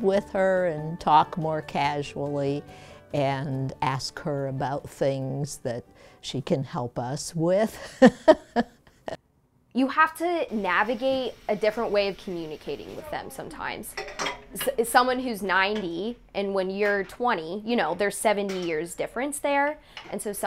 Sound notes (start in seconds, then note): 7.7 laughter